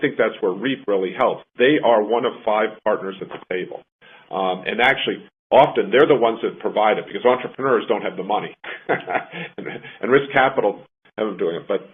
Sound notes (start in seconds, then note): 8.6 laughs